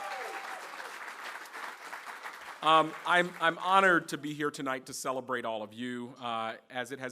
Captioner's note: applause